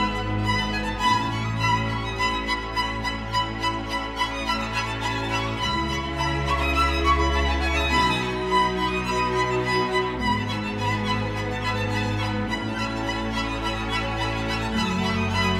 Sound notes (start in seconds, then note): none